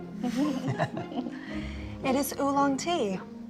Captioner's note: chuckling